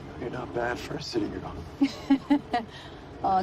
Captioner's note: laughing